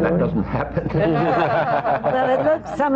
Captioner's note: laughter